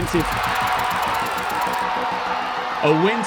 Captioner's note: crowd cheering